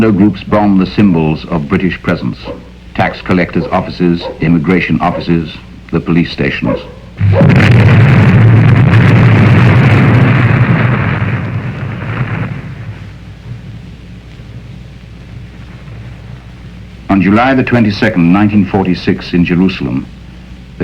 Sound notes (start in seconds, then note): 7.1 explosion booming; 7.5 dog barking